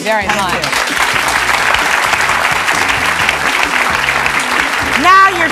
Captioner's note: audience clapping